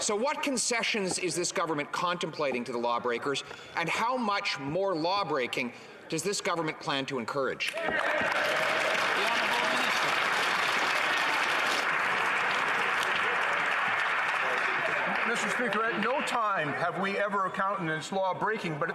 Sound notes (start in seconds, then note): 10.9 some Applause